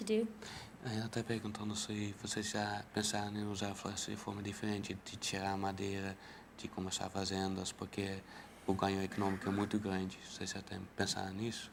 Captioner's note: speaking in portuguese